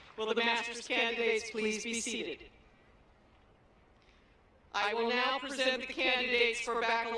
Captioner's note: applause